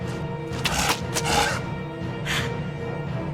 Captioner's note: heavy breath